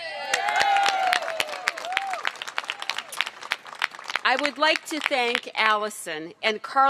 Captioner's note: cheers and applause